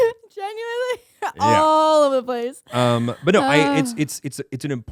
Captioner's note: laughing